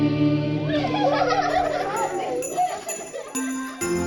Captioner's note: kids chuckling; lively festive music